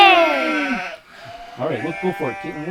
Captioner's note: sheep bleating